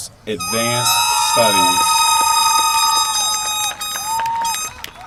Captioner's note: loud whistles